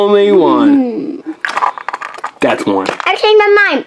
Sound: assistant groans disappointedly

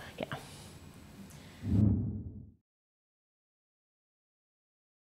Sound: graphic whooshing

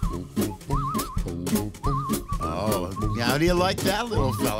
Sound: upbeat music; whistling

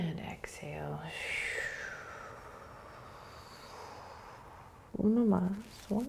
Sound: exhaling

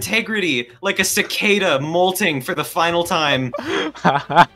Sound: laughs

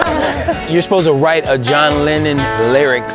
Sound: laughter

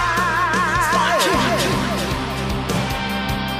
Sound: fading echo

